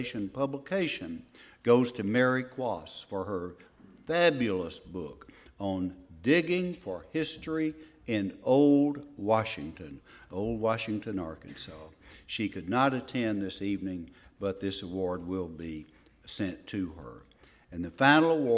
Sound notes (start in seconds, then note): none